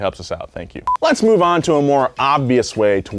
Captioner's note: video beeping